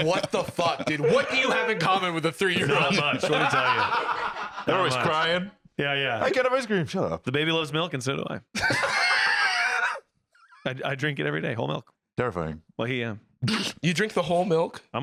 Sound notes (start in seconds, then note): 8.5 both laughing